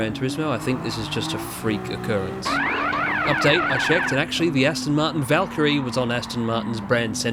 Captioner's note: space cadet pinball sound35